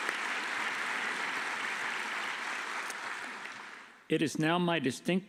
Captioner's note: applause